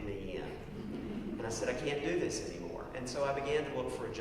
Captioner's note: laugh